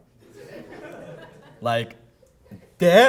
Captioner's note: audience laughing